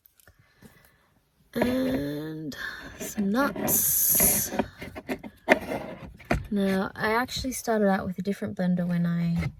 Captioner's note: clunky scraping